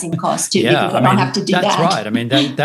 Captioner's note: chuckles